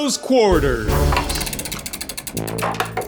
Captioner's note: wheel rattling; light music